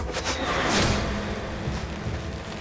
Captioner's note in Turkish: Ok saplanma sesi